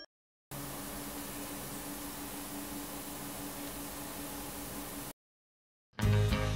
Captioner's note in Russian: Компьютер шумит